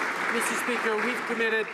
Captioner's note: some Applause